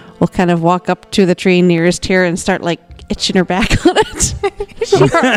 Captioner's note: laughs